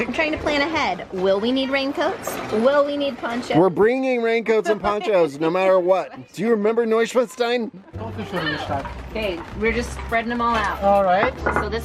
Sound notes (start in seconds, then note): 5.9 laughing; 7.3 speaks German